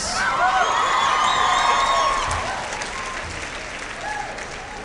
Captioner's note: cheering